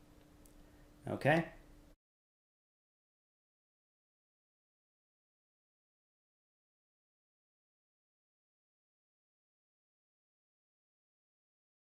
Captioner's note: silence with captions on the screen